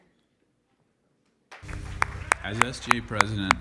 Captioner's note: applause